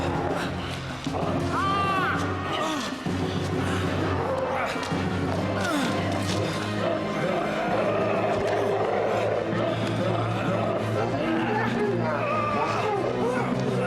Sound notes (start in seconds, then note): 0.0 groaning; 3.8 growling; 8.8 grunting